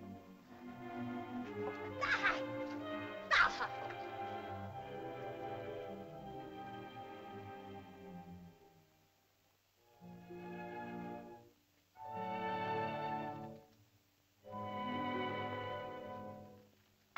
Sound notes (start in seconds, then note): 3.2 woman cries out; 5.0 ominous music; 10.1 soft music